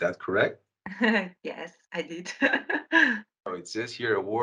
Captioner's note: laughs